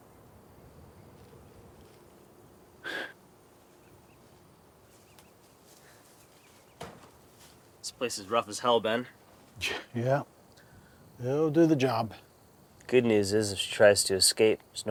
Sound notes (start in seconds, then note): 2.8 exhales; 9.0 scoffs